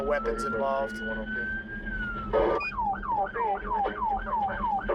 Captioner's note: sirens